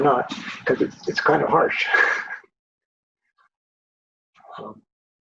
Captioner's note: chuckles